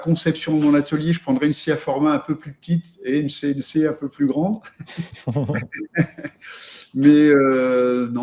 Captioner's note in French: rires